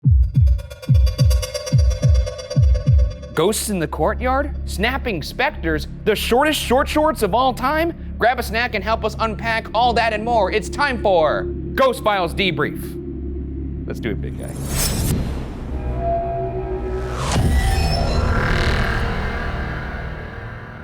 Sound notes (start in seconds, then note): 14.8 intense creepy music; 15.7 screen whooshing